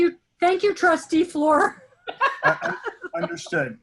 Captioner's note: laughing